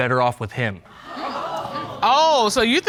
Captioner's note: audience gasping